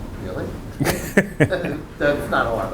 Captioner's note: laughing